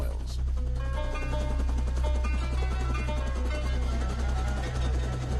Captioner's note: helicopter blades whirling